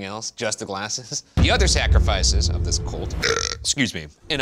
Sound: burps

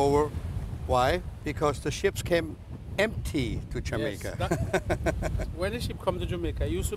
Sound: laughs

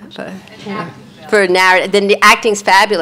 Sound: faintly speaking

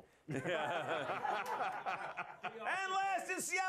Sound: laughter

